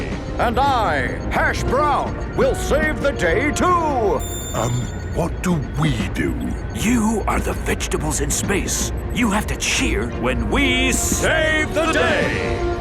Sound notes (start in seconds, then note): 4.6 whispering